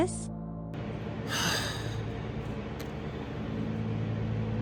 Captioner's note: groans in frustration